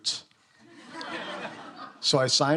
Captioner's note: students laughing